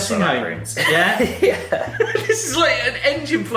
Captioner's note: laughs